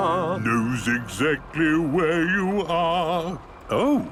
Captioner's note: mimicking tune